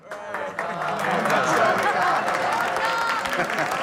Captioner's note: applause